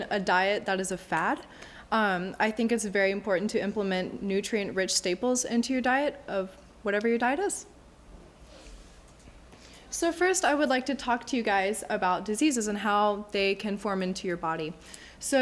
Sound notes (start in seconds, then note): none